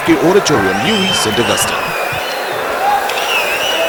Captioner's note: wild applause and cheering for 22 seconds